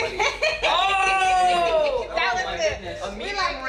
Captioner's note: laughs